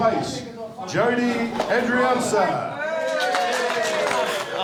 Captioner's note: cheering, applause